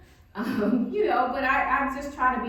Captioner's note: laughing